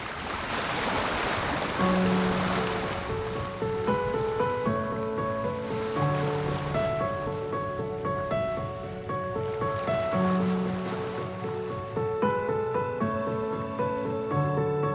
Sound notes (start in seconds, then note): 0.9 waves crashing; 3.0 soft delicate music